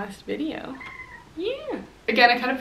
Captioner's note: cat meows